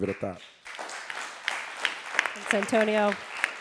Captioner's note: audience applauding